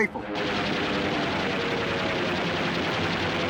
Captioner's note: gunfire